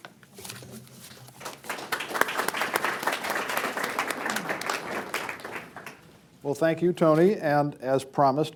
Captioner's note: applause